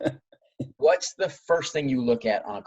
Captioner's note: laughing